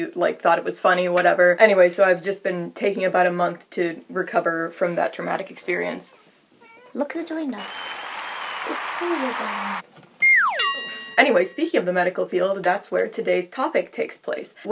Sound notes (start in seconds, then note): 6.6 Matilda meows; 7.5 more Applause; 10.2 slide whistle sound effect